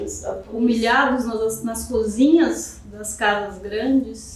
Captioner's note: speaking portuguese